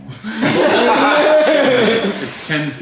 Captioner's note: group laughs